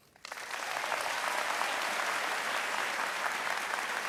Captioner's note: audience applauding